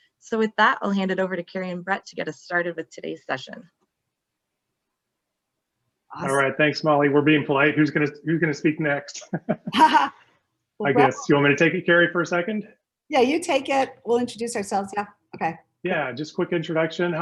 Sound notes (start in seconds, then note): 9.1 both laugh